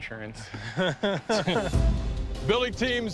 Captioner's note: laughs